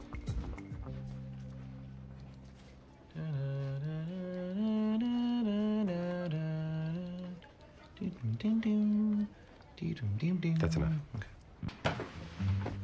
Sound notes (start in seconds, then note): 2.7 ABED hums the theme to M.A.S.H